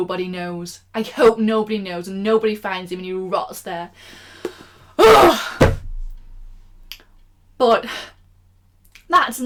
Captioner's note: book slam